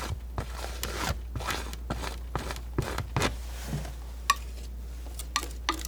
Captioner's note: scratching